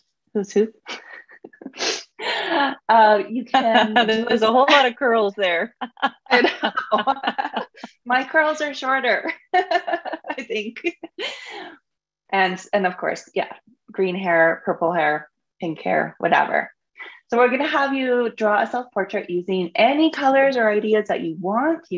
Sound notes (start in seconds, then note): 1.3 laughs